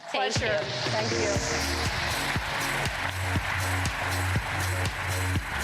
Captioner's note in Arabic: تصفيق